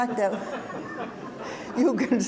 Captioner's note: audience laughs